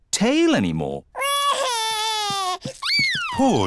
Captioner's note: crying